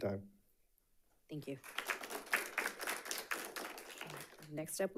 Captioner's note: audience applauding